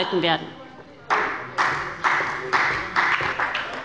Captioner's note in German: Beifall bei Abgeordneten der SPD